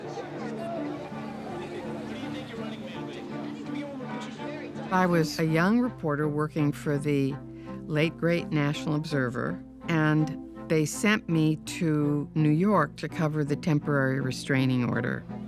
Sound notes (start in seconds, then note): 0.0 upbeat music; 3.0 group chattering